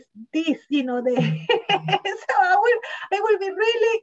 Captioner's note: laughs